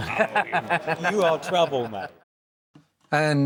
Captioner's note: laughs